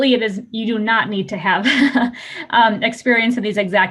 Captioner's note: laughing